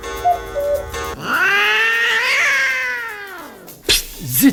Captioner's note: clock with cuckoo; cat meowing